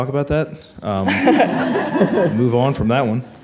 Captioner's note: attendees laugh